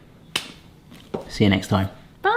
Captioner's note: high five slap